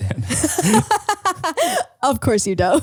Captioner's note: laughing